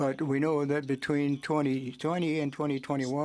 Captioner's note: speaking French